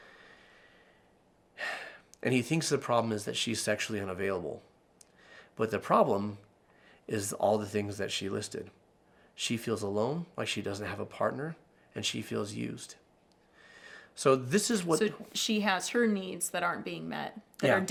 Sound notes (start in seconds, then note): 1.6 exhaling